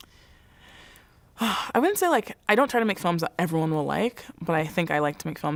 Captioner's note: sigh